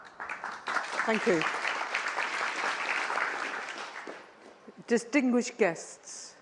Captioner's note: applause